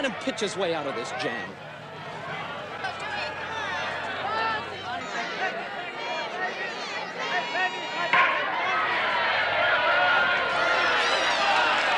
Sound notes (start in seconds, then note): 4.7 crowd chatters; 9.5 crowd cheers